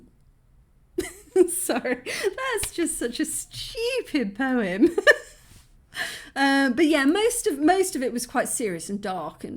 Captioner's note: laughing